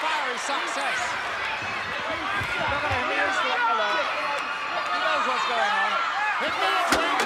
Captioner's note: applause